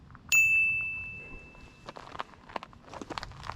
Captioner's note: bell dings